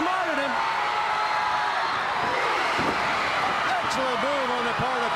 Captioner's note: crowd cheering